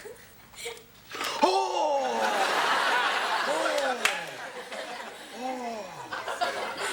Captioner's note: gasps; audience laughs